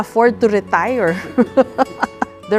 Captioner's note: laughter